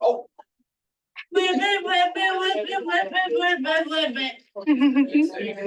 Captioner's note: participants chattering